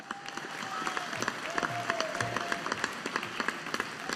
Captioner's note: audience applauding